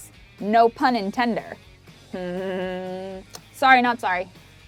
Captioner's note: giggles